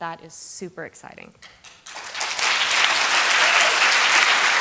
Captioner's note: applause